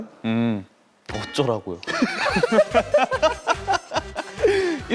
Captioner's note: cracks up